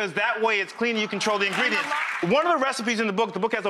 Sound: audience applause

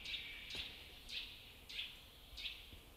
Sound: birds chirping

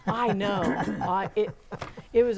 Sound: laughing

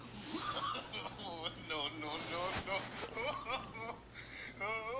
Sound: laughing

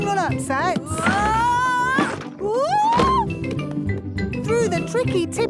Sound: wood teetering

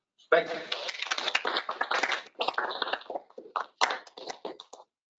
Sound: applause

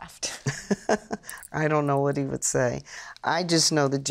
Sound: chuckles

